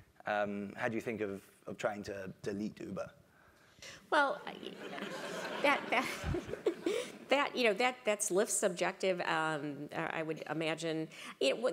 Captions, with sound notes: more recently, how do you think of trying to lead to Uber? >> Well. >> [LAUGH] >> [LAUGH] That's lift subjective I would imagine.